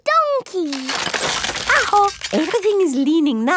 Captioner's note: house creaking